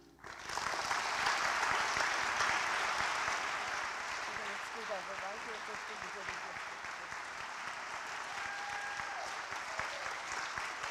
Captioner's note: applause